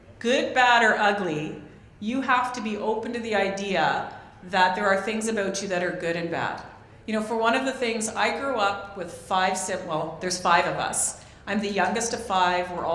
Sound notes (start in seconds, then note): none